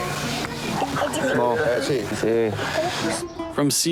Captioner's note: speaking In Foreign Language